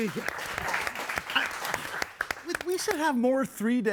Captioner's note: everyone applauding